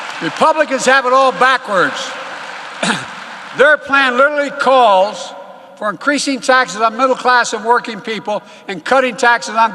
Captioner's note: applause